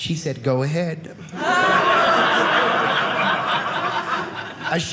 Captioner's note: audience laughing